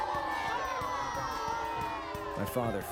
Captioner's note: crowd booing